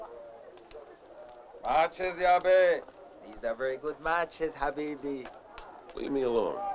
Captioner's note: non-english speech